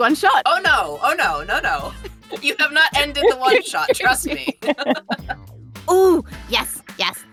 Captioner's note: EVERYONE laughs